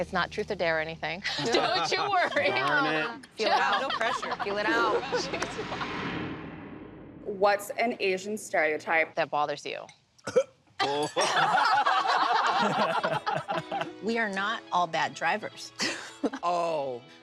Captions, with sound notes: It's not truth or dare or anything. - Don't you worry. - Darn it. - Peel it out. Peel it out. - No pressure. What's an Asian stereotype that bothers you? - ( coughs ) - ( laughter ) - We are not all bad drivers. - Oh!